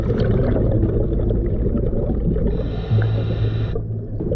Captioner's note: water gurgling